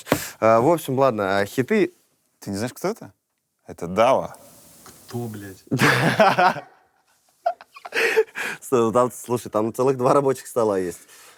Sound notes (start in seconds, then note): 5.7 laughs heartily